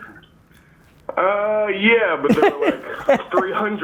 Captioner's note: Gary laughing